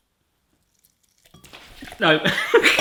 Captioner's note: whooshing; pouring; laughs